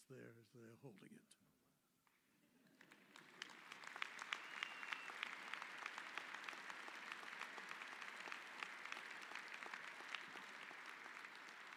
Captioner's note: applause